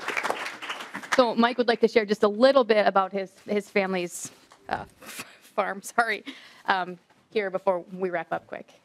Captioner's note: applause